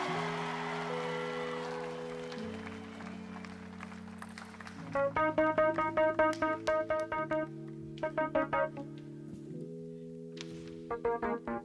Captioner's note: applause